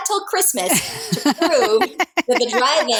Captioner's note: laughing